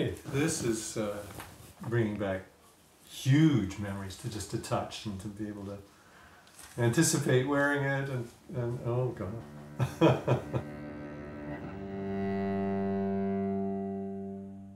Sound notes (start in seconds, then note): 9.6 laughing; 11.1 light orchestral music